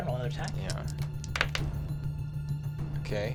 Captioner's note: rolls dice; suspenseful music